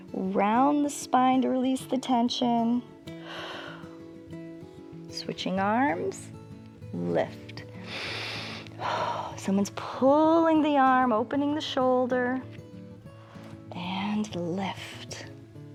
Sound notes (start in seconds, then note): 3.2 exhales; 7.8 inhales and exhales